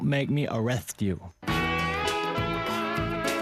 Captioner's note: lisping